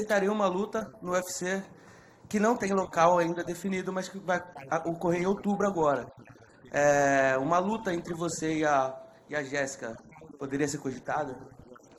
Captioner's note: speaking foreign language